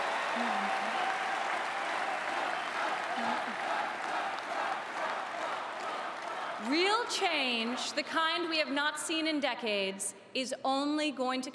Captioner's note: cheering and Applause